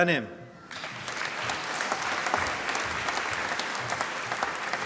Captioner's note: applause